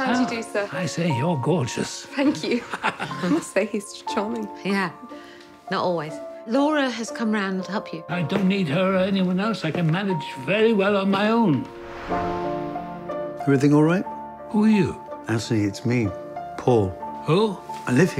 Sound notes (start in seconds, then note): 2.5 Anthony laughing; 12.2 somber music